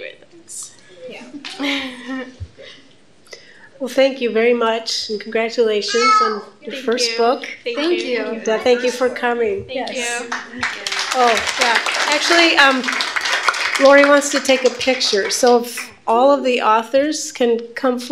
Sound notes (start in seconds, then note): 10.2 applause